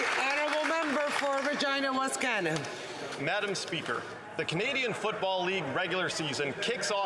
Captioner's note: applause